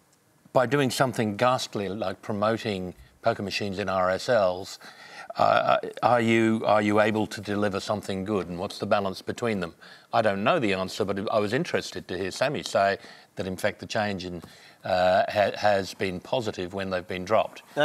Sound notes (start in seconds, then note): none